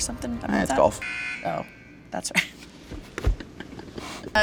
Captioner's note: buzz sound; laughing